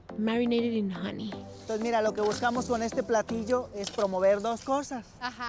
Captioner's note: speaking Spanish